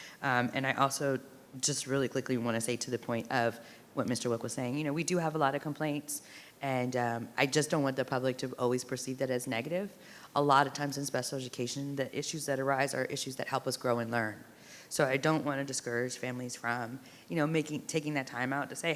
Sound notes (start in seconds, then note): none